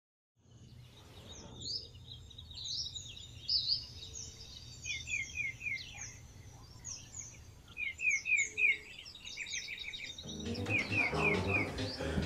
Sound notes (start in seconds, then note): 0.4 birds chirping